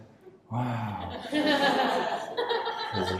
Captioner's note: audience laughs